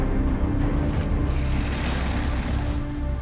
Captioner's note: snarling